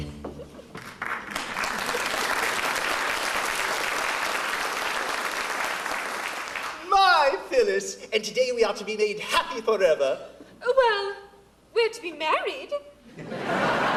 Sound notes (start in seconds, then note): 0.7 applause